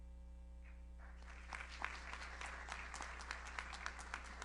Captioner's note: audience applauds